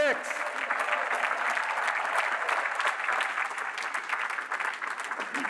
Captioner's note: applause